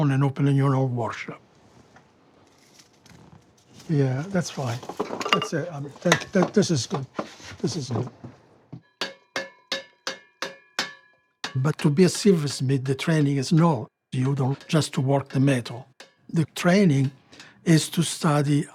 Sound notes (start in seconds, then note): 8.7 hammering